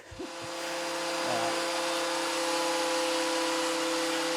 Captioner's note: machine whirring